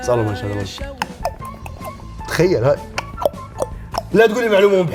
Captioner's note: mimics clicking language